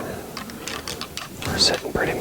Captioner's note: antlers rattling